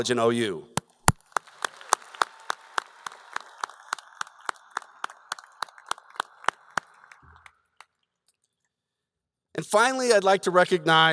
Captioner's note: applause